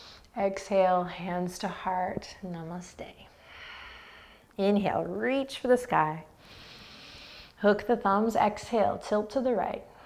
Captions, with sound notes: Exhale, hands to heart. Namaste. Inhale, reach for the sky. (inhaling) Hook the thumbs. Exhale, tilt to the right.